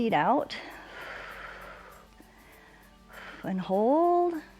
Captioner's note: exhales